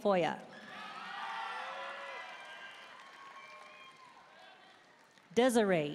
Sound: audience cheering and applauding

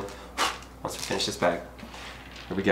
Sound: blows

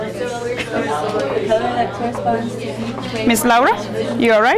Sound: students chatting

